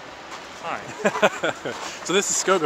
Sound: laughs

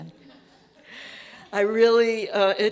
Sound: audience laughing

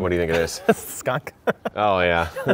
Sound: laughing

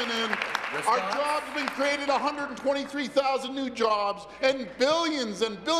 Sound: applause

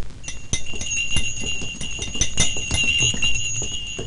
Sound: <Sound of Bell>

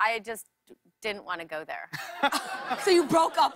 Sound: laughter

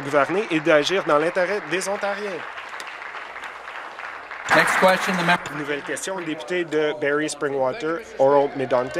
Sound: applause

